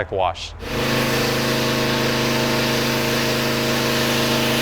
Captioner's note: machine whirring